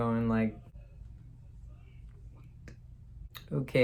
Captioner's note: whispers